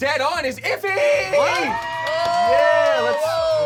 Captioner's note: cheering